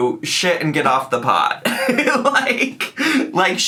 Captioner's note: giggles